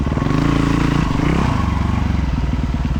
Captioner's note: engine revving